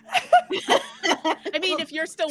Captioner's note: all laughing